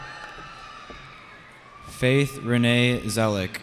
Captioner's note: cheering